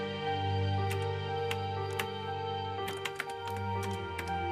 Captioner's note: typing